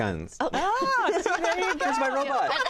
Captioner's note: laughter; laughing